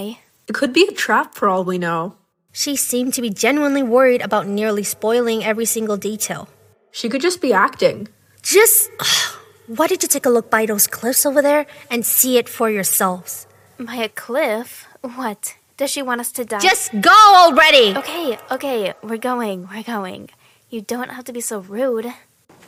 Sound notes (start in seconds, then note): 9.0 sigh